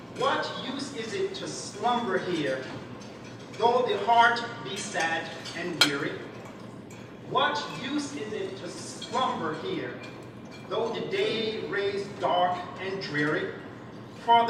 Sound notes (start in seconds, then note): none